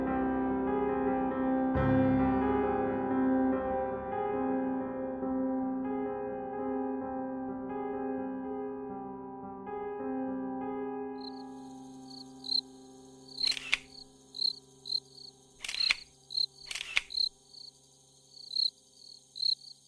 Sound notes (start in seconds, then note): 13.2 crickets and camera